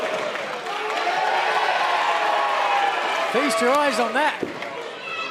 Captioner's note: cheers and applause